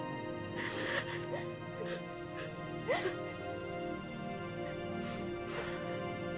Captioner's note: somber orchestral music; crying